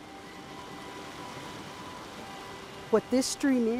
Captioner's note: water flowing